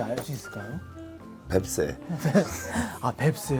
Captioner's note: haha